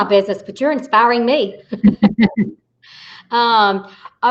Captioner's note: laughing